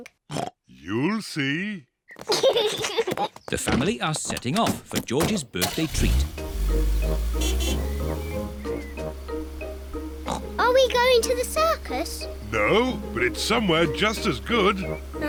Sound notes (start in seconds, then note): 0.3 oinks; 2.2 kids giggle; 6.5 horn honks; 10.2 oinks